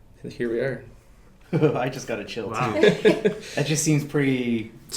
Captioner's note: laughing